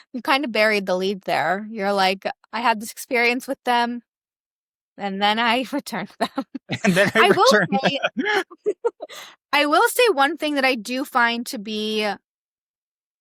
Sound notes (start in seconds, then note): 8.5 both giggling